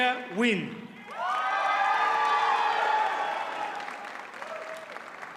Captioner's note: audience cheers and applauds